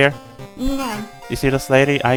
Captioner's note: something Japanese